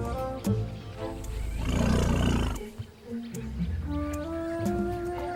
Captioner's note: animals calling; rumbling continues